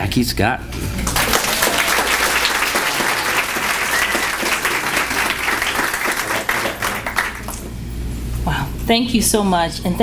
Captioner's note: applause